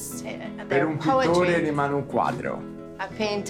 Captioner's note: Dario speaking Italian